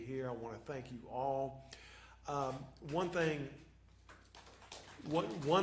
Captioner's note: applause